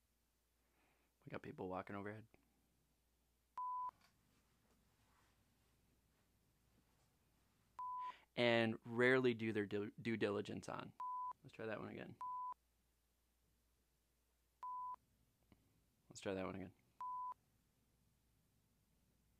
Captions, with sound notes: We got people walking overhead. And rarely do their due diligence on. Let's try that one again. (device beeps) Let's try that one again.